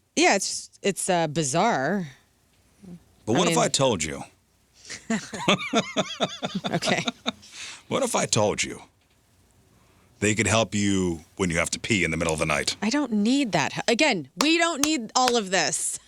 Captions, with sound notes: Yeah, it's bizarre. But what if I told you? (laughing) Okay. What if I told you they could help you when you have to pee in the middle of the night? I don't need that. Again, we don't need all of this.